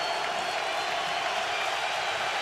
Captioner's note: cheering